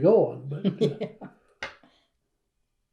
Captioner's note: laughs